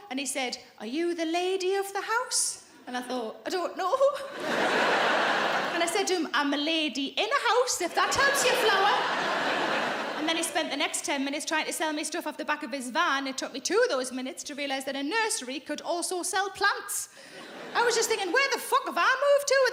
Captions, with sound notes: and he said, "Are you the lady of the house?" And I thought, I don't know. (audience laughing) And I said to him, "I'm a lady in a house, if that helps you flower." And then he spent the next 10 minutes trying to sell me stuff off the back of his van. It took me two of those minutes to realise that a nursery could also sell plants. I was just thinking, where the fuck have I moved to